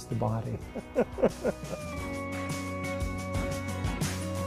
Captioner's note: laughing